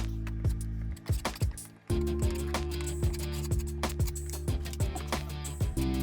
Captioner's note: tape fast forwarding; tool scraping; gentle music